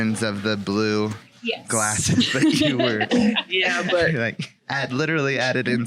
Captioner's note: laughing